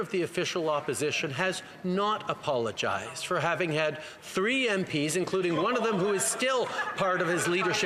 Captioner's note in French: voix de l'interprète